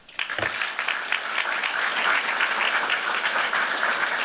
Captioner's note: applause